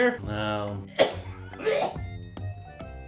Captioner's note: coughs